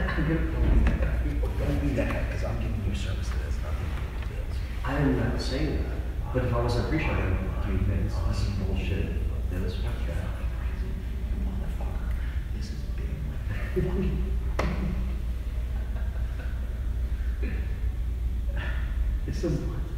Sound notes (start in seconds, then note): 17.6 laughing